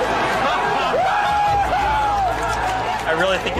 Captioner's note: cheering